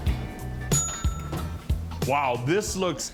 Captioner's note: oven dinging